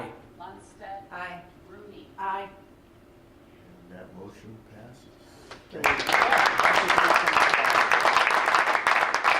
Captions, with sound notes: >>Lundstedt >>Aye. >>Rooney. >>Aye. >>And that motion passes. (crowd applauds)